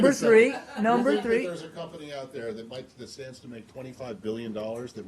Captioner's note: laughter